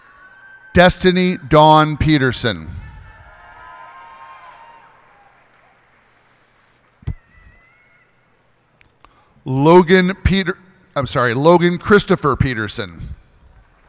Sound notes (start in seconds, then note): 2.9 cheers and applause